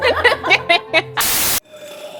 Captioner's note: hosts laugh; maniacal laugh